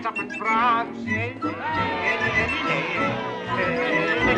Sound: scrooge humming

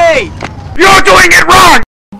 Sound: in different voice

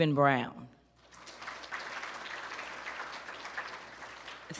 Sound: applause

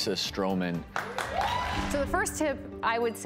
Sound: clapping

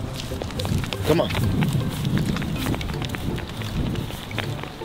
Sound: footsteps tap; happy music plays

